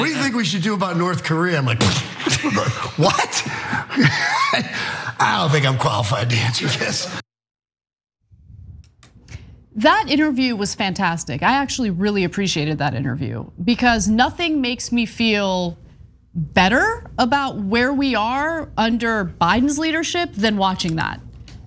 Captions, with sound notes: >> What do you think we should do about North Korea, I'm like, what, [LAUGH] I don't think I'm qualified to answer Yes, that interview was fantastic. >> I actually really appreciated that interview, because nothing makes me feel better about where we are under Biden's leadership, than watching that.